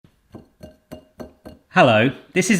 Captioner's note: glass clinking